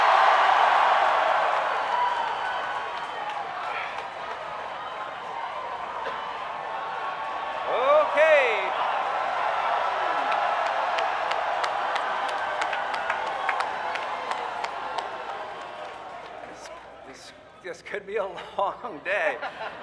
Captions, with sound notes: [Riotous and prolonged Cheering] Okay! [Continued Cheering] This could be a long day.